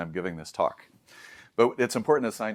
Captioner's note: inhales deeply